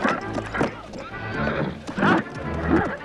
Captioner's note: townsfolk murmuring; guard grunting